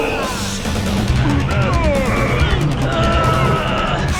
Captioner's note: grunting